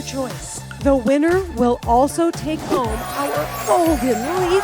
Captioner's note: sparkling sounds